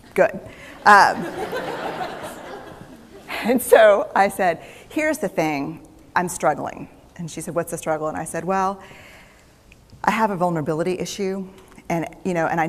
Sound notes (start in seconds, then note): 0.8 laughter